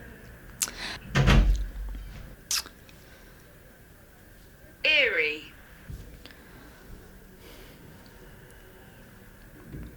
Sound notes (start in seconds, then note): 4.9 in Google Translate